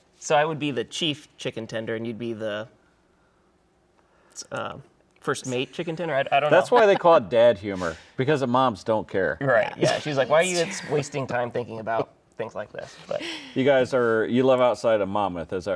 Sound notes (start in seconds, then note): 13.0 laughing